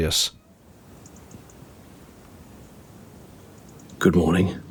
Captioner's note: glorious silence; whispered